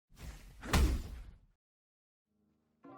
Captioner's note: swoosh, Thud